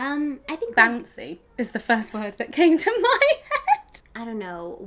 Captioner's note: laughs